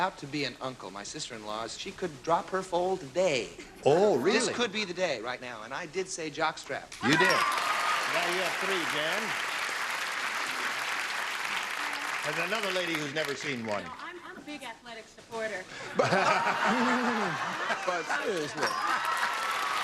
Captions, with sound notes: AS I AM ABOUT TO BE AN UNCLE. MY SISTER-IN-LAW, SHE COULD DROP HER FOLD TODAY. OH, REALLY? THIS COULD BE THE DAY RIGHT NOW, AND I DID SAY JOCK STRAP. YOU DID. NOW YOU HAVE THREE, JAN. AND ANOTHER LADY WHO'S NEVER SEEN ONE. NO, I'M A BIG ATHLETIC SUPPORTER. [LAUGHTER]